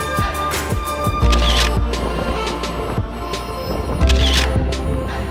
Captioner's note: camera clicking